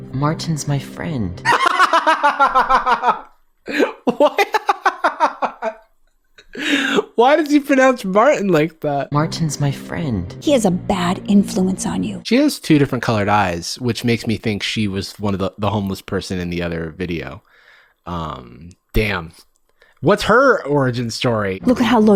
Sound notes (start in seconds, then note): 1.4 Jarvis laughing; 5.7 laughs